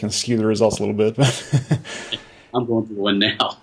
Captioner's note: laughter